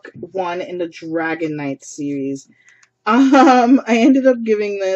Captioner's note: laughs